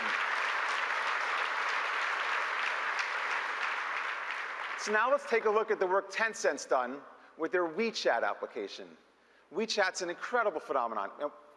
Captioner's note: applause